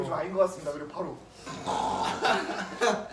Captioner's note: snore